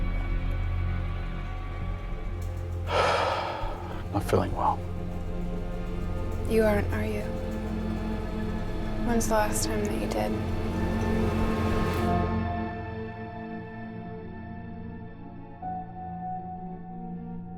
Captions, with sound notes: [exhales] I'm not feeling well. You aren't, are you? When's the last time that you did? [music intensifies] [mysterious music]